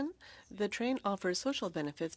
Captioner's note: speaking French